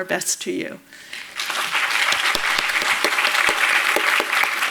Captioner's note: audience applauds